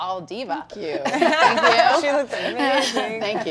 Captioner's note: laughter